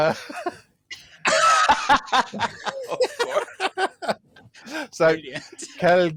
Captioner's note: laughter